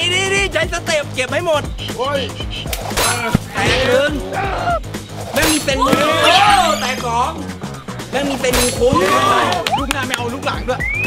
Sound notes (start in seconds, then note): 5.8 cheering